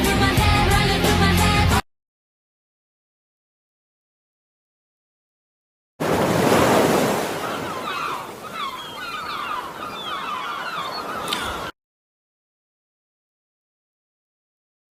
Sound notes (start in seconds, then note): 6.0 seaside sfx